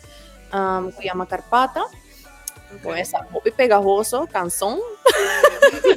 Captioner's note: tick